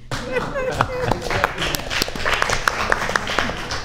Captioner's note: audience applauds